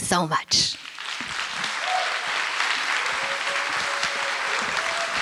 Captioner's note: applause